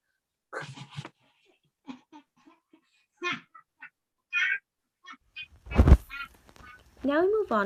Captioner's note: giggles in the distance with a bottle of poison